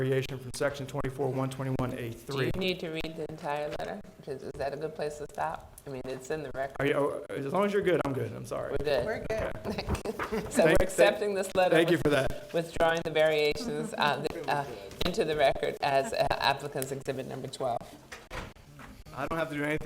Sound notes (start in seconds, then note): 9.6 chuckling